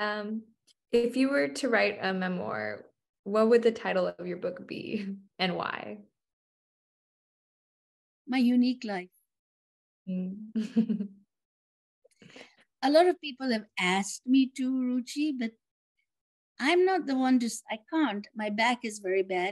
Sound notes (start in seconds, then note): 10.6 laughs